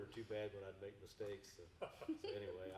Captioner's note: chuckling